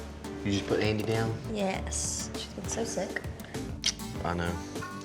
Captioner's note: smooch